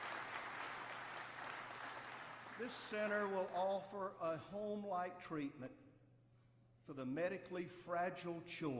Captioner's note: applause